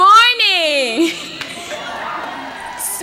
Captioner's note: cheers